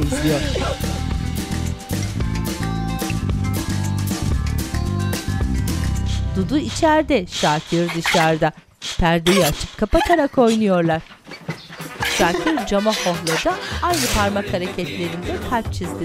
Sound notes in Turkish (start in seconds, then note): 9.1 Gülme sesi